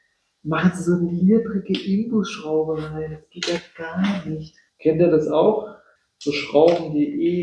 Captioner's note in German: räuspern